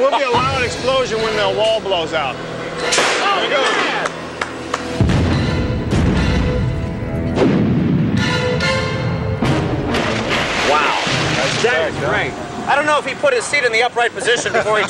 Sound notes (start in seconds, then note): 3.9 sea plane engine roaring; 5.0 loud explosion